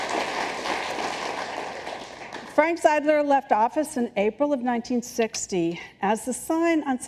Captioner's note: applause